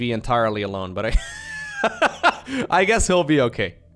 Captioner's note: laughs